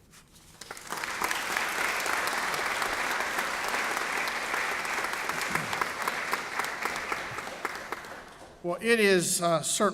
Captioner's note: applause